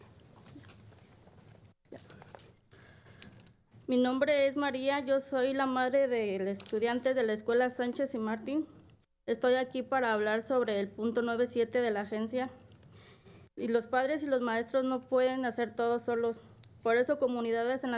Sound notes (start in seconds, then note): 7.4 speaking spanish